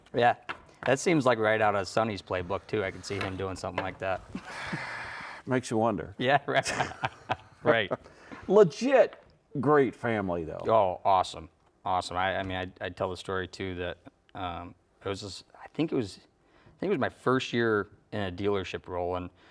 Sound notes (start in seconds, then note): 6.4 both laughing